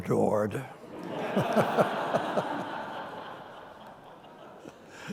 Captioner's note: audience laughing